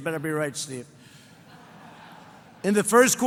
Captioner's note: laughter